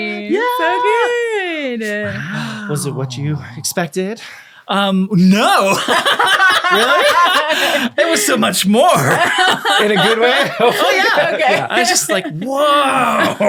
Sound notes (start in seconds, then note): 5.7 laughing